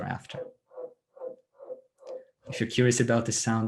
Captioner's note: bird chirping